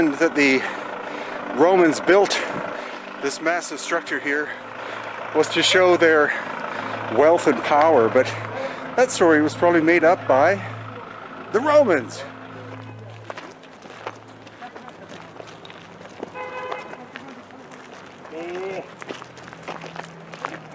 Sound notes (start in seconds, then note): 13.0 gravel crunching; 13.0 vehicle honking